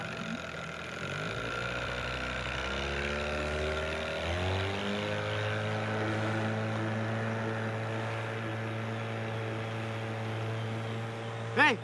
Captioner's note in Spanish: Ruido de la lancha